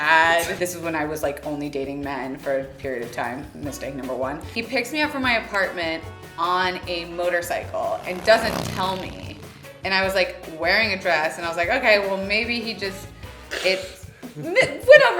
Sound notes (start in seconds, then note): 7.9 motorcycle rumbles